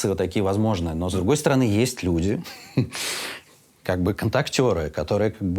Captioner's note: laughs